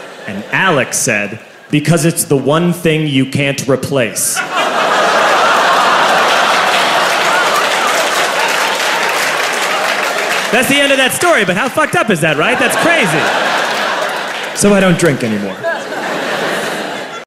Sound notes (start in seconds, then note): 4.3 laughter